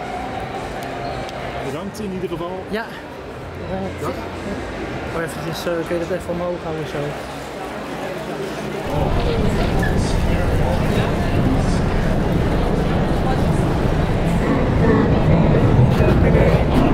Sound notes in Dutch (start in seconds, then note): 8.8 gerommel geluiden